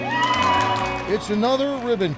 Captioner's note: all cheering